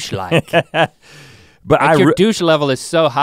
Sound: Rhett chuckles

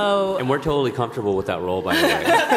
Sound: laughter

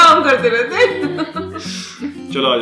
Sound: laughing

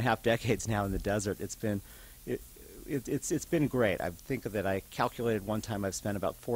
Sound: stutters

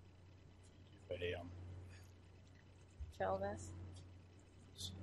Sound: muttering

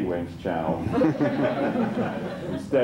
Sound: laughter

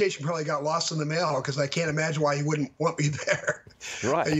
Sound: laughter

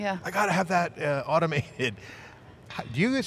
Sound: chuckles

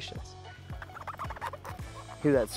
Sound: mushroom squeaking faintly

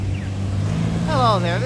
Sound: van turning corner

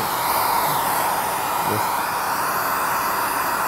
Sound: loud whirring

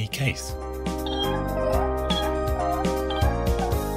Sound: squeaking

